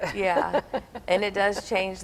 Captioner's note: laughing